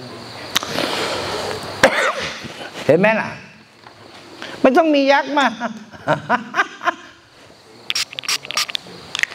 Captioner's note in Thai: เสียงหัวเราะ